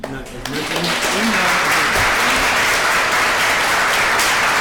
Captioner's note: audience clapping